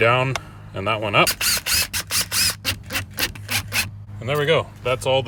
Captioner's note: drill whirring